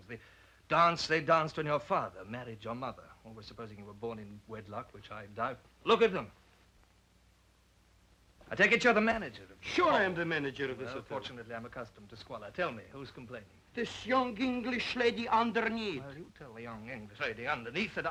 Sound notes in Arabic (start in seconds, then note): none